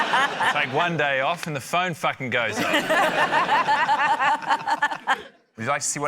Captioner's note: laughter; laughter